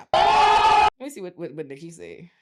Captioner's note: screaming